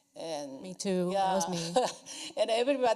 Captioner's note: laughs